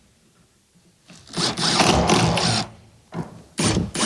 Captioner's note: electric drill sound